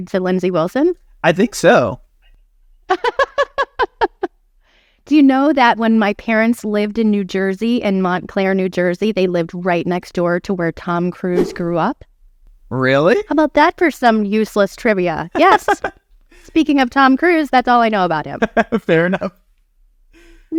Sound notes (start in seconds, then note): 2.9 laughing